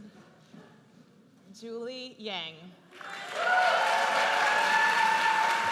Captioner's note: audience cheers